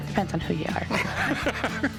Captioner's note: laughs